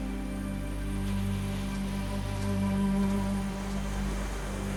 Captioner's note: waves crashing